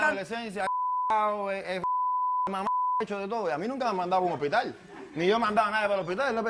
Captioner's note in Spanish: Bip